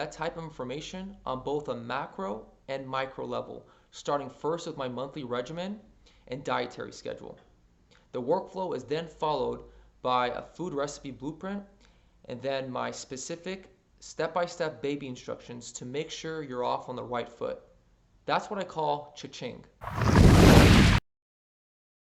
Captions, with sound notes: type of information on both a macro and micro level starting first with my monthly regimen and dietary schedule the workflow is then followed by a food recipe blueprint and then my specific step-by-step baby instructions to make sure you're off on the right foot that's what I call cha-ching [thunder]